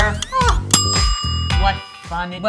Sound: timer dings; upbeat music

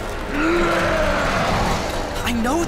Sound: roars; fighting impacts and grunting

